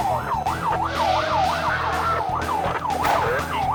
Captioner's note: siren blaring; upbeat music